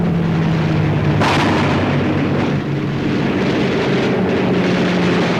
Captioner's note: rapid gunfire and explosions